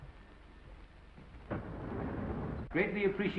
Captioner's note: door sliding